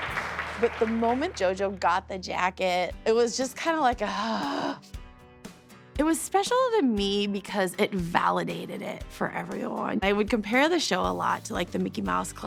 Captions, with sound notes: But the moment JoJo got the jacket, it was just kinda like a... [sighs] It was special to me because it validated it for everyone. I would compare the show a lot to The Mickey Mouse Club